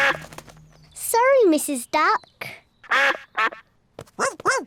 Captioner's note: duck quacks; quacks; barks